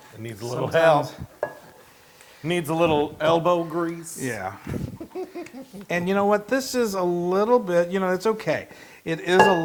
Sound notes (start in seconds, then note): 4.6 laugh